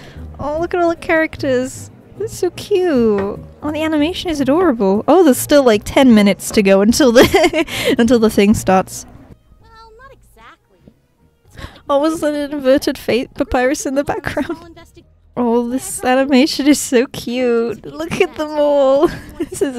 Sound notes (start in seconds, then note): 7.2 laughs